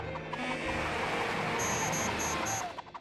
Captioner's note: beeping; beeps accelerating